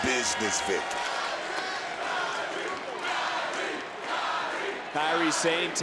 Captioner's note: crowd chants "Kairi"